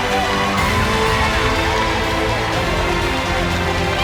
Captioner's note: audience cheering